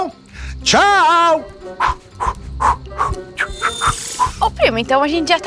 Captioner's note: sparkling; sighing